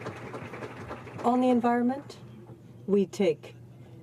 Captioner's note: applause